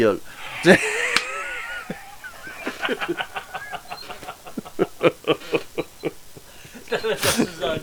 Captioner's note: laughtering